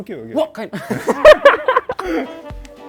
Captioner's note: laughs